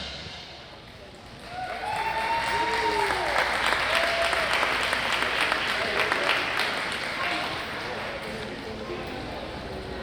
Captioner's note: applause